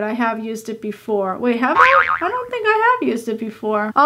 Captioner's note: cartoon boing sound